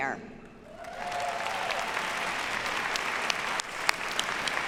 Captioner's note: audience applauds